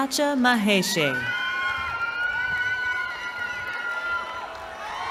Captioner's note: cheering